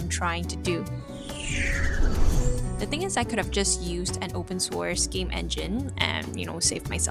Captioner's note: whoosh transition